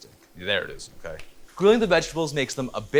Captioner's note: sizzling